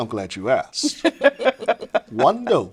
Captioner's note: laughing